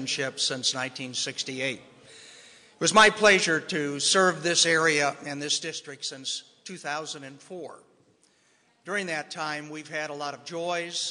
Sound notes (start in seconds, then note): none